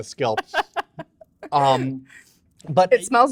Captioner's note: laughing